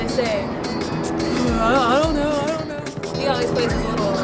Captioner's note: sucks teeth